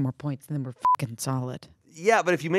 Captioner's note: beep